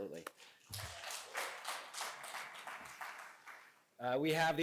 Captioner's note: applause